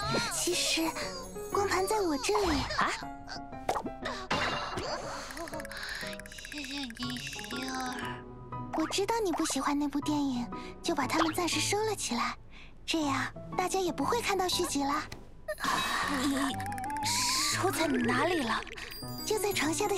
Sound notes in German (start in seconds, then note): 4.0 hust